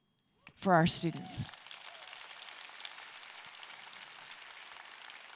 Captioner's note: audience clapping